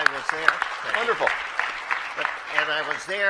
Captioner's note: applause